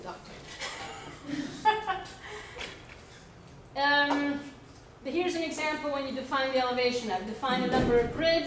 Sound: laughs

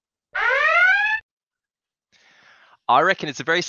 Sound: siren blaring

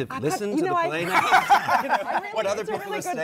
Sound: laughter

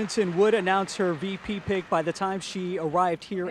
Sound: applause

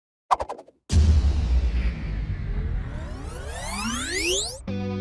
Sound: sound wave; upbeat music plays

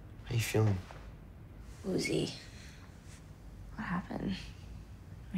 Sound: none

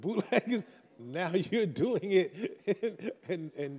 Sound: chuckles

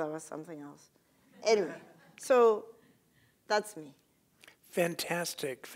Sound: laugh

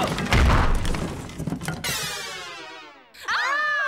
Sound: crash; screams

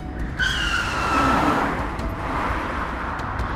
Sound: tyres screeching

